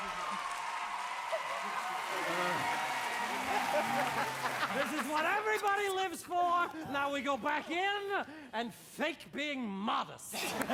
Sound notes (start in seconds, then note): 0.9 all laughing, murmuring